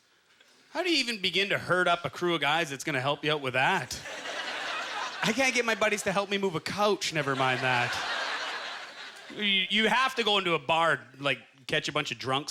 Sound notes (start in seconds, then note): 4.0 audience laughter